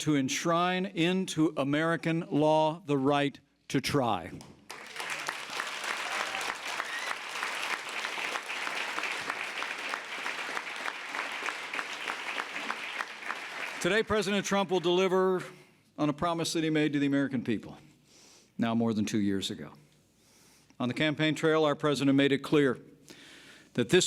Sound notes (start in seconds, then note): 4.6 applause